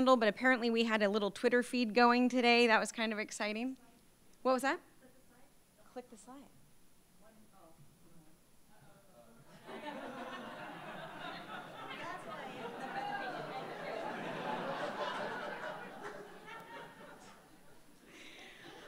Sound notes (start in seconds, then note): 7.4 woman speaking quietly; 9.5 laughter; 10.4 audience chattering loudly